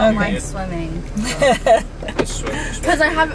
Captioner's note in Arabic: يضحك